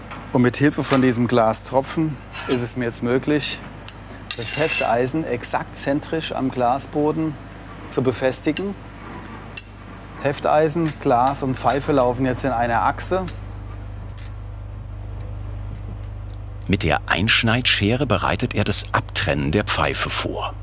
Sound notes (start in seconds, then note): none